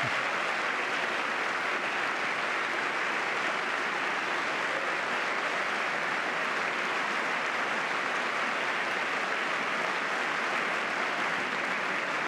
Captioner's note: applause